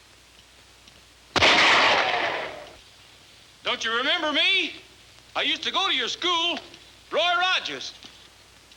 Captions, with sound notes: (gun firing) Don't you remember me? I used to go to your school, Roy Rogers.